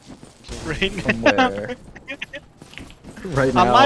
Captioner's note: chuckles